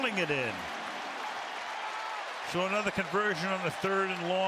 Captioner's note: cheering